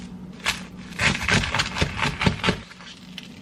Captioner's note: crispy sandwich being sliced